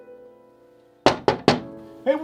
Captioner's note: knock on the door